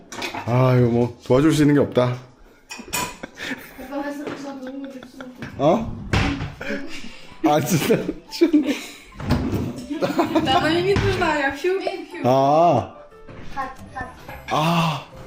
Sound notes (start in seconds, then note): 6.1 drawer closing sound